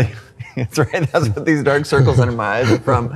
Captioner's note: laughs